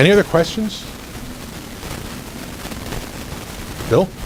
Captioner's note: recording crackling